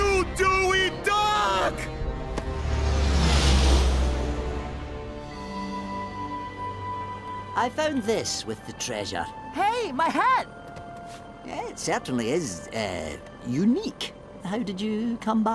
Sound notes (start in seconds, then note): none